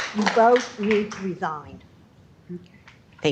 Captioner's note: applause